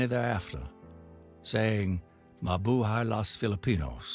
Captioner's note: speaking foreign language